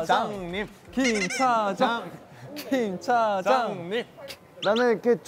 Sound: Chanting for Hongjoong

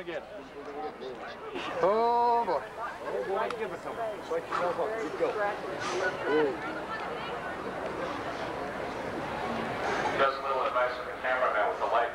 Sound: crowd noises

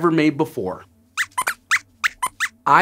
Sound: squeaks squeaks

